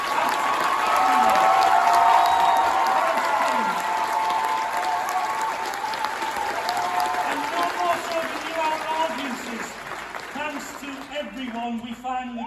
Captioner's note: cheering & applause